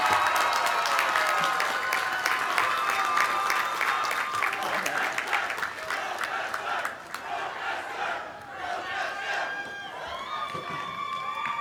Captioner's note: applause; cheering